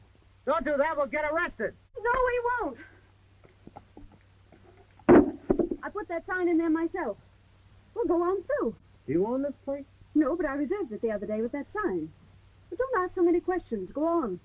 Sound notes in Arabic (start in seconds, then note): 5.0 علامة قعقعة